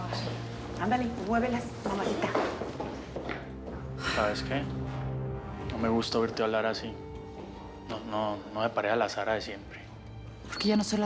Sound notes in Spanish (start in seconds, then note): none